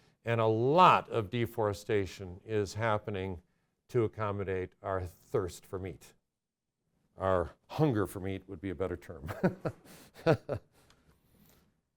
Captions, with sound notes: And a lot of deforestation is happening to accommodate our thirst for meat, our hunger for meat would be a better term. (laughs)